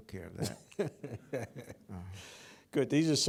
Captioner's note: laughs